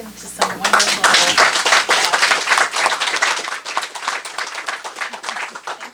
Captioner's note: applause